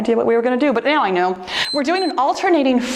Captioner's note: timer beeps